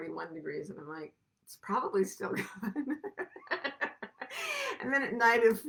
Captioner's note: laughs